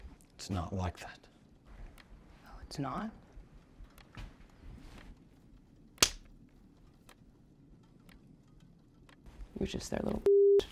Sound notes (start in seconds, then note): 6.0 hand whacks